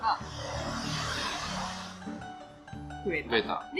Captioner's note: motorcycle passing